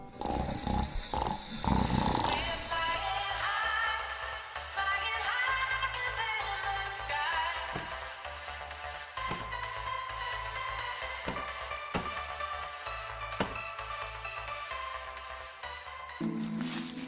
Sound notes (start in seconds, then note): 0.0 snoring; 3.6 phone rings